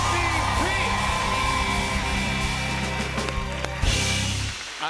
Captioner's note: cheers and applause